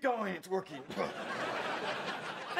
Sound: laughing

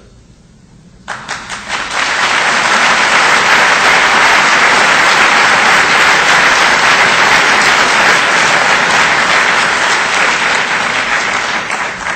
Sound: audience applause

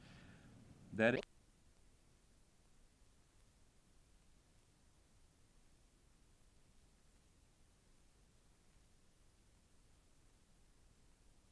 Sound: silence

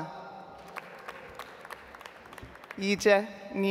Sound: audience applauds

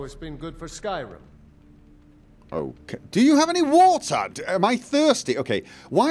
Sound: none

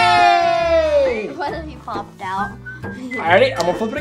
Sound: giggling

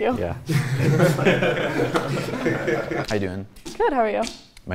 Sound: men laughing

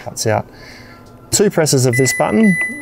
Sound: control panel dings

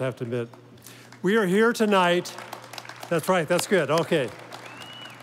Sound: audience applauding

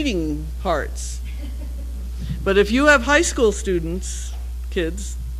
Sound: laugh

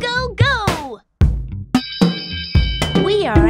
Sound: bell ringing

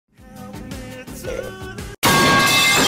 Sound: metal pipe aaaaaaaaaaaaaaaaaaaaaaaaaa

